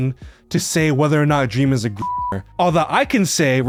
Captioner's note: beeps